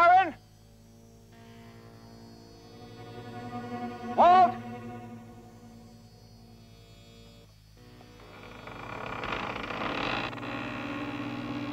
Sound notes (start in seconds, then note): 1.7 Eddie screaming